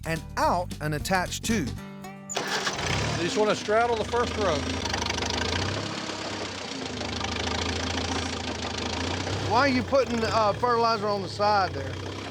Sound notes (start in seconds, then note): 1.8 tractor motor starts; 4.8 tractor motor chugging